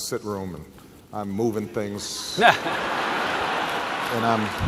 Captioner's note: laughter